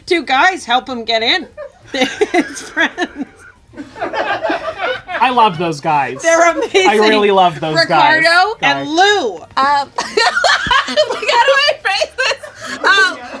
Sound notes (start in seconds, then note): 3.9 people offstage laugh; 10.0 laughs